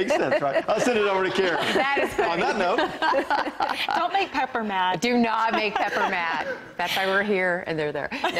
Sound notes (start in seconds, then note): 5.4 laughter